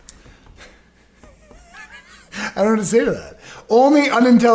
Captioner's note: laughs